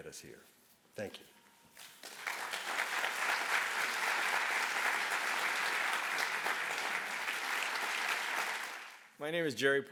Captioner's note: applause